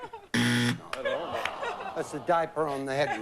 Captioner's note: buzz